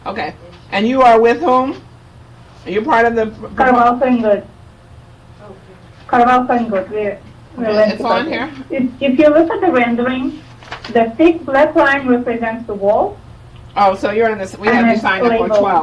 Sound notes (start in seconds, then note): 4.1 woman speaking in the background